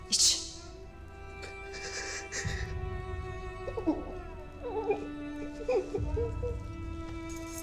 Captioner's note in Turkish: Ağlama Sesleri